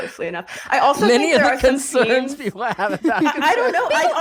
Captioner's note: chuckling